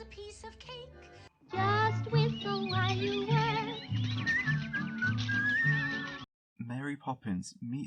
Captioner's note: whistling